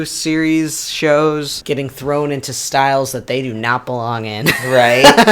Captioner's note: laughs